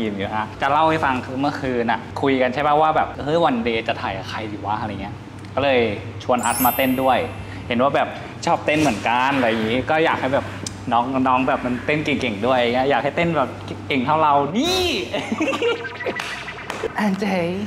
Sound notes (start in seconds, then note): 14.5 laugh